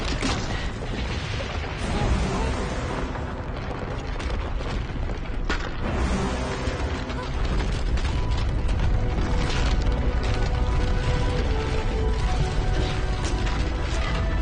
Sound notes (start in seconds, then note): 5.7 rumbling, gravel clattering